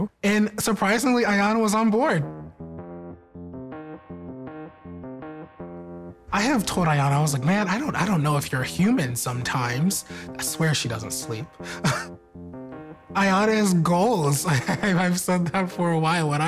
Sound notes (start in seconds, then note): 2.4 upbeat music; 11.6 laughs